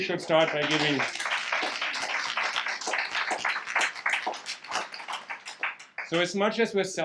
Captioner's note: audience clapping